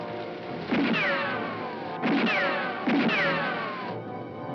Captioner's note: guns firing